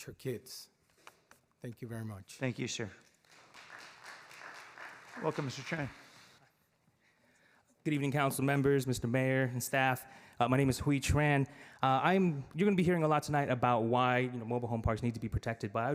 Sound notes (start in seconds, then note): 9.9 clapping